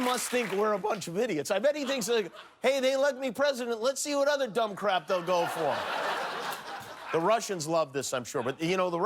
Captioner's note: applause